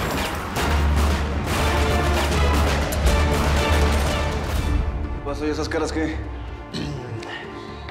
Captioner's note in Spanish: Tiroteo